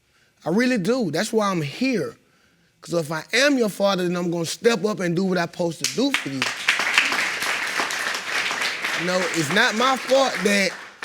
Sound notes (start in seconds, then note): 5.8 audience applauding